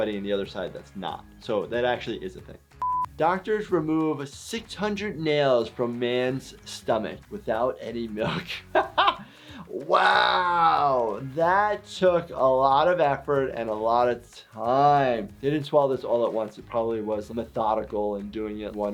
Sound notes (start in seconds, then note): 8.2 laughing